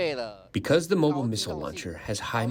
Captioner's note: through translator